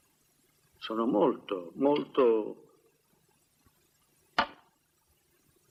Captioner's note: clattering